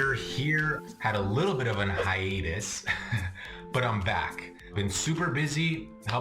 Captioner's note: chuckles